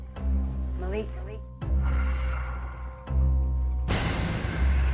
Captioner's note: echos; tense eerie music